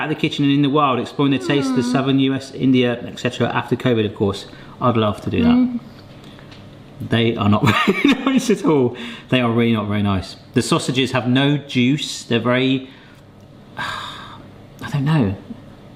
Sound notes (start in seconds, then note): 8.1 laughing